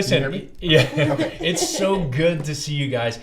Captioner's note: laughs